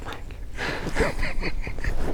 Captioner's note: laughing